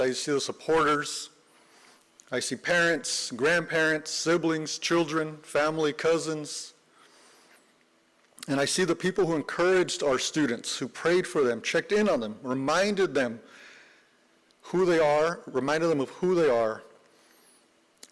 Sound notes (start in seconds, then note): none